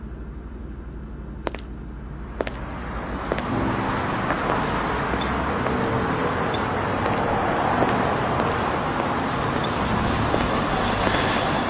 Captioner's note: footsteps departing